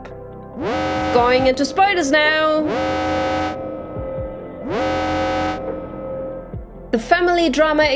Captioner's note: alarm; alarm